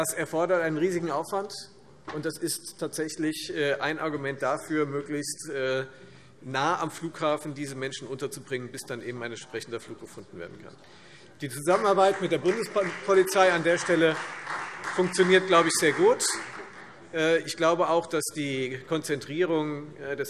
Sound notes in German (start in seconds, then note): 11.6 Beifall Freie Demokraten